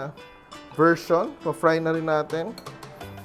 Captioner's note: clink